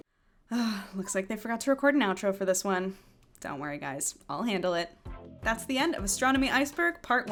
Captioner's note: sigh